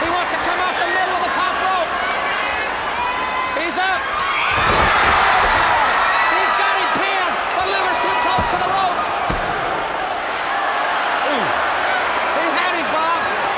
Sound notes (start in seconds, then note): 4.5 body thudding; 4.5 blows thudding; 5.6 crowd cheering